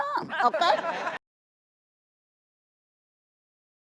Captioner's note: laughter